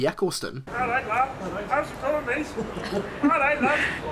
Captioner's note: thick Northern accent